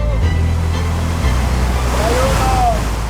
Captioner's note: bright music continues; river whooshing